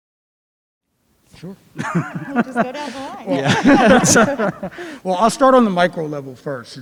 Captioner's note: laugh